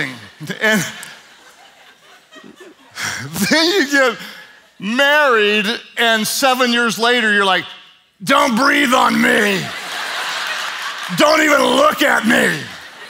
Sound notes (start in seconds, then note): 9.2 audience laughs